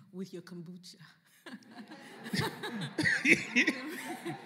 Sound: laughter

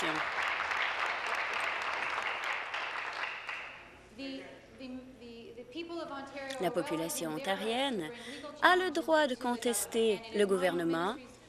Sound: applause

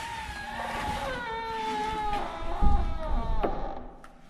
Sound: metal creaking

